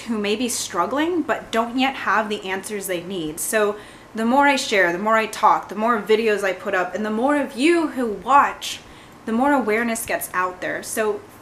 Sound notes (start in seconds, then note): none